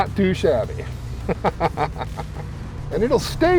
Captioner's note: laughing